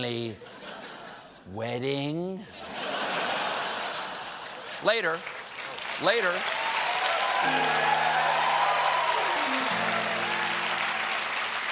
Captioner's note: cheers and applause